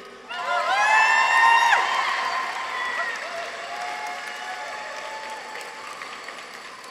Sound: people cheer; audience applauds

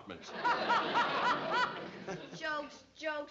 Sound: laughing

